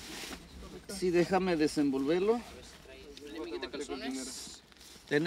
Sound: group speaks in Spanish

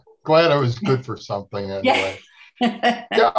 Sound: laughing

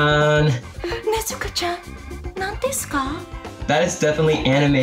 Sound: speaks in Japanese

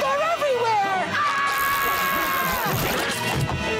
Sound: screaming

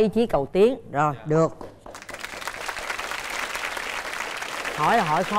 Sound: applause

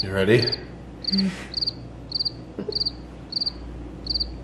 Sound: chirp sound

